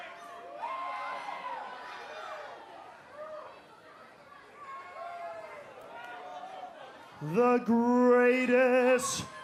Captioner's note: cheers and applause